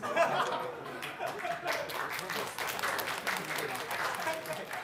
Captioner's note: applause